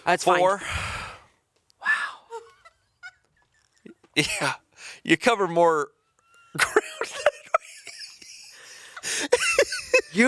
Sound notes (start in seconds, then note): 2.5 chuckling; 6.4 chuckling